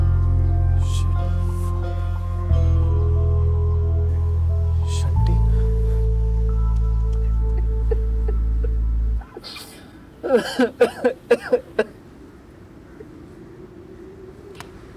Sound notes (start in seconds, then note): 10.2 Crying